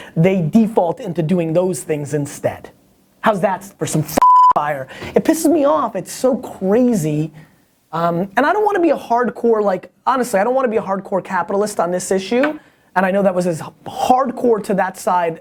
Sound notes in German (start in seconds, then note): 4.2 Piepton